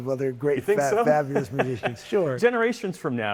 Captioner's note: laughter